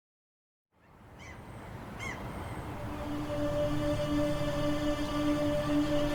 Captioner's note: waves crashing; soft music